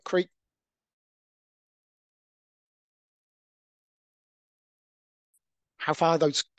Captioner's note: audio cuts out